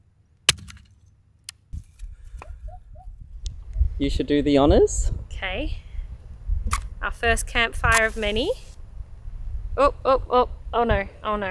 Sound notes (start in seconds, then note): 7.9 striking match